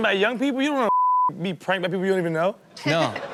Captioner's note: beep; Chanel and audience laughing